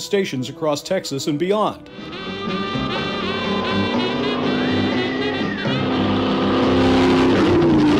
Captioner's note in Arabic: موسيقى حية; هدير محرك السيارة